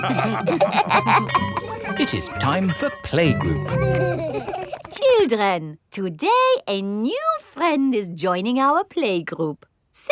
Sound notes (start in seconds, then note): 0.0 all laughing; 1.2 school bell ringing; 4.0 giggling